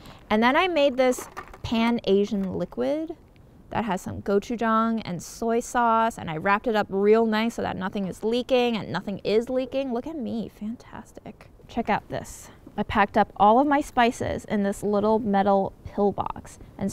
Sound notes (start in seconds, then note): none